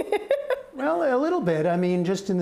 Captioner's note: laughter